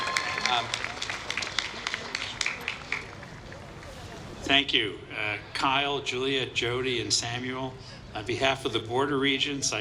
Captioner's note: applause